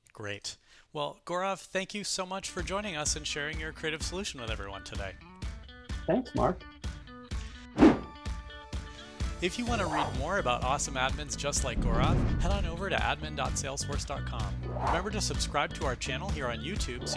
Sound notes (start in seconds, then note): 6.0 upbeat music; 7.8 air whooshing